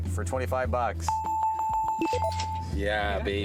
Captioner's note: bells